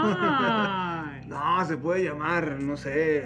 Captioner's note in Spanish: risas